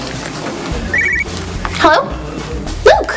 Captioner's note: cell phone rings